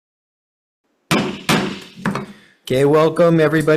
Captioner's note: gavel clanking